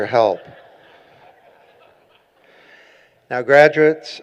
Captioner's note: laughing